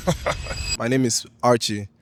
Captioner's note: laughs